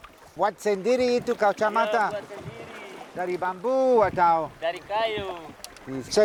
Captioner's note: both speaking Austronesian language